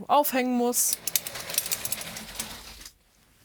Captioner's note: rattling